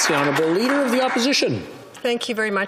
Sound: applause

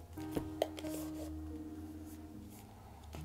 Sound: cards Rustling

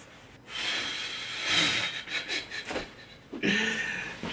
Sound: blows

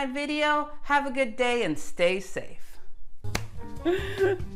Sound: chuckles

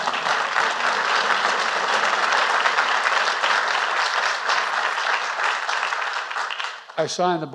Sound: applause

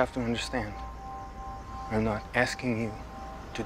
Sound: voice wavering slightly

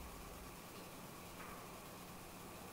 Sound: tap

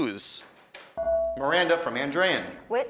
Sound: ding

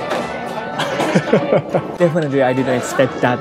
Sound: chuckle

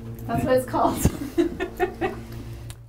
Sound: laughs

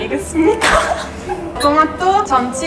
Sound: laughs

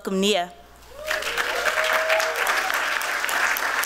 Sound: applause, cheering

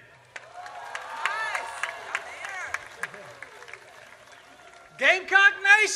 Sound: audience cheers

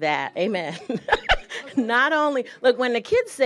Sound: laughter

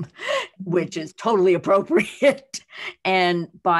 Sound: laughs

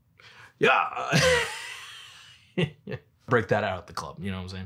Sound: chuckles

